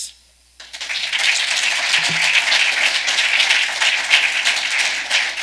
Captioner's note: audience clapping